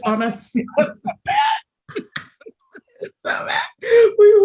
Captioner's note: both laugh